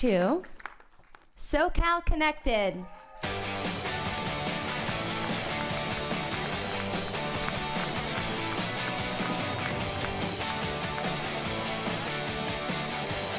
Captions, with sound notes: [APPLAUDING] - IN THE EMMY GOES TO... "SoCAL CONNECTED"!